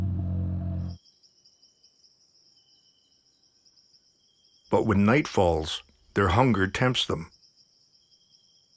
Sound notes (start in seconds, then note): 0.8 crickets chirping